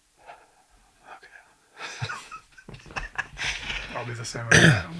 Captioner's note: laughs